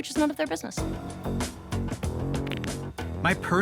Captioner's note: knuckles crack